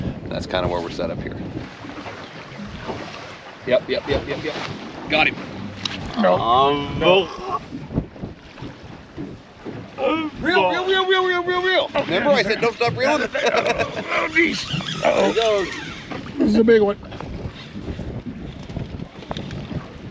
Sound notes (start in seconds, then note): 15.5 laughing